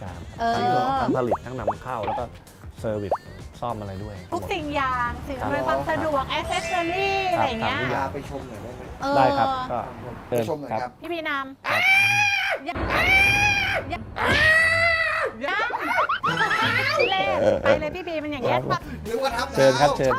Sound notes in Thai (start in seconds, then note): 11.5 ร้อง